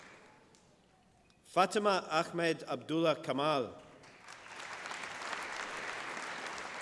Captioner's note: applause